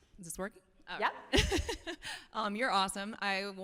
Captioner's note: chuckles